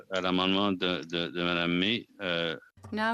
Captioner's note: speaking French